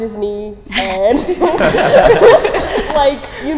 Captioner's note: laughing